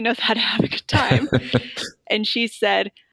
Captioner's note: laughter